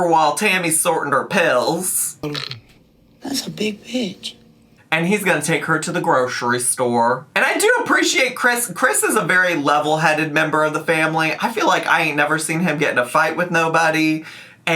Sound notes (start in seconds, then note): none